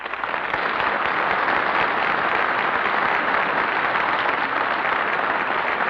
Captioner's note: applause